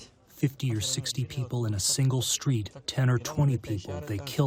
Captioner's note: through translator